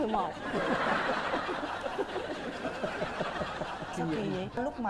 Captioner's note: laughing